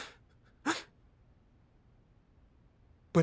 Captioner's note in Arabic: البكاء